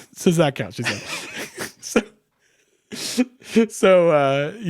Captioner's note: both laughing